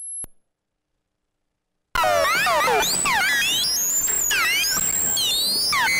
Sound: high pitched electronic sound distortions

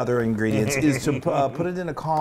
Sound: laugh

